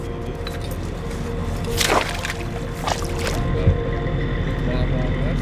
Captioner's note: water splashes